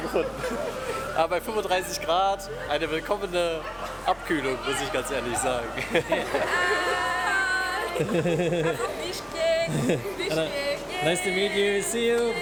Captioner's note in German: gelächter